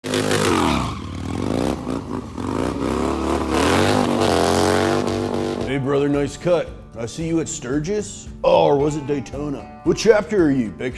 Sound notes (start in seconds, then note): 0.0 engine revving; 0.0 wheels screeching